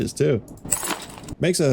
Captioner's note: loud metallic clatter